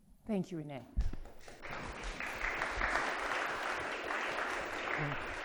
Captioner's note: audience applauding